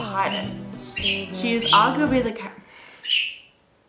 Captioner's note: interrupted by bird being extremely loud